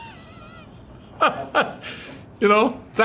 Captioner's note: laughs